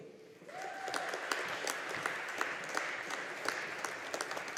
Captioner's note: audience applauding